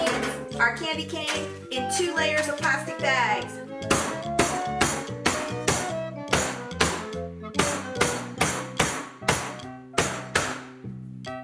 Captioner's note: pounding